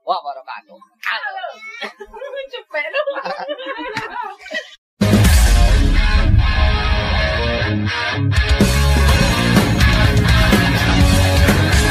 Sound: laughs

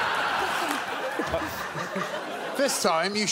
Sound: audience laughs

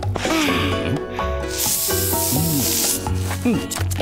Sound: spraying

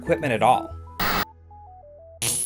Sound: static

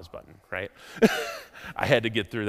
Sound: chuckles

